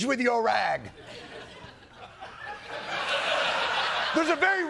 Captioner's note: laughter